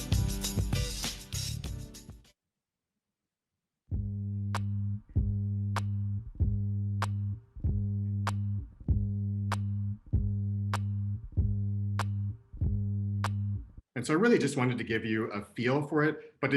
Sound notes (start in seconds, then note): 0.0 music stops; 4.0 bass pitch repeating